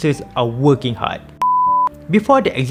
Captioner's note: beep